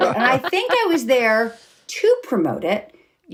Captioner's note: laughing